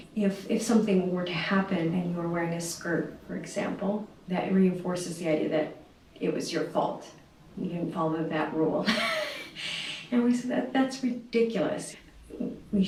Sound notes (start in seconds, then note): 8.9 laughs